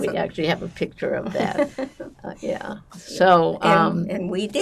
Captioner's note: laughing